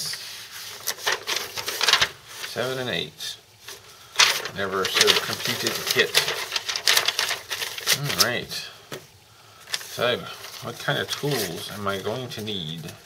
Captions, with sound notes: 7 and 8. And there is out completed kit [more shuffling paper] All right. So, what kind of tools am I going to need.